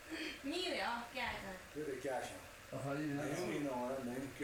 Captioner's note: laughter and chatter